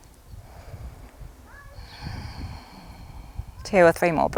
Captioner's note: deep breathing